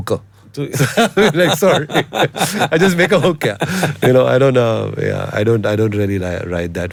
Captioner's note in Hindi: हंसी